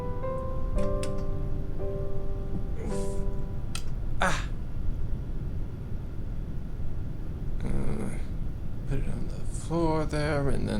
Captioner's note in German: murmelt vor sich hin